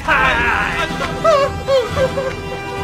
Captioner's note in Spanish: corre y llora desesperadamente xd